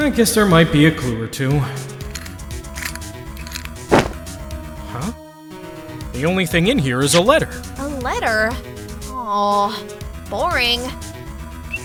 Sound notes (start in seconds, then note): 3.4 locks spin, CLICK!